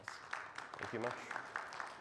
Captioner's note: audience applauding